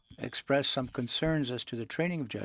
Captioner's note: speaking French